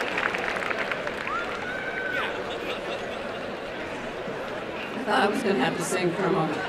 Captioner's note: applause; background chatter